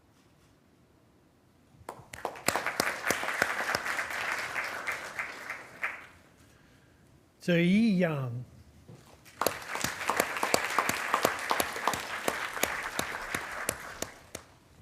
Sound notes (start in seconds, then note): 1.9 attendees applauding; 9.2 attendees applauding